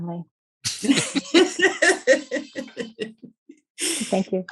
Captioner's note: all laughing